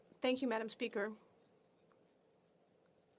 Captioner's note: speaking French